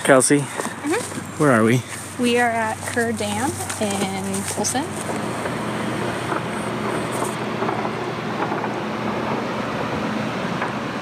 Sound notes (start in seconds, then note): 4.3 water rushing in the distance